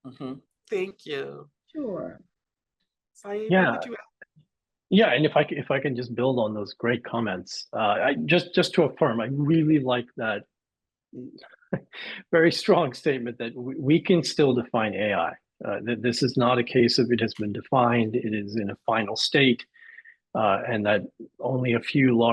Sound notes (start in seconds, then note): 11.7 chuckles